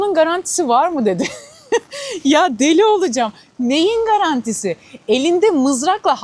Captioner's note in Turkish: kahkaha